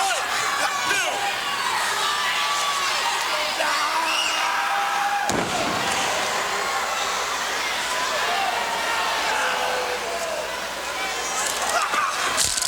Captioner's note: crowd cheering